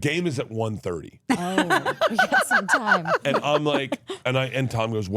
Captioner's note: Steph laughing